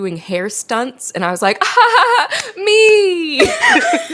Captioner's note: both laugh; laughs